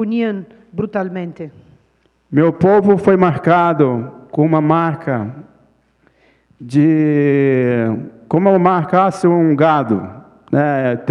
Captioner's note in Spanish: Ponente habla en portugués